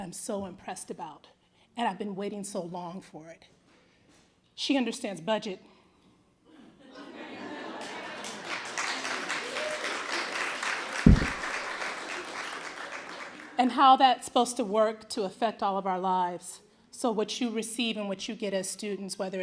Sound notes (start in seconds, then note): 6.5 laughter; 7.8 applause